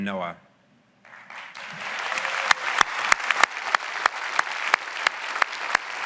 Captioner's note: audience clapping and cheering